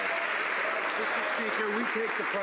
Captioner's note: some Applause